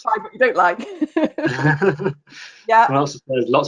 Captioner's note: both laughing